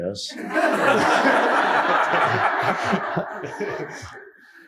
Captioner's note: audience laughing